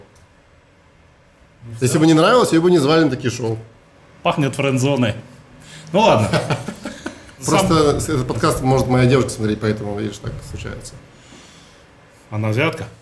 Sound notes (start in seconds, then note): 6.0 laughs